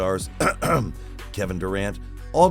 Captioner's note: cough Cough